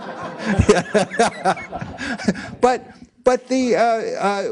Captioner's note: laugh